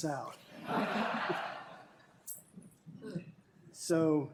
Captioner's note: laughter